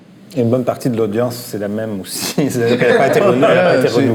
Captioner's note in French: rires